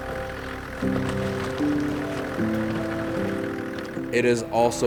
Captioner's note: car engine revving